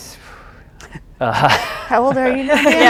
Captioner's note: chuckles